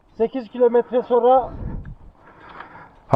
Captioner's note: in turkish